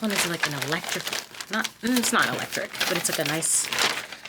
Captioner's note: bag crinkling